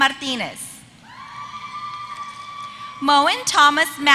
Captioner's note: applause